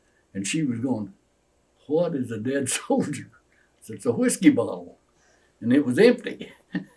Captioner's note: laughs